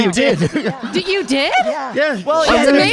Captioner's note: audience laughing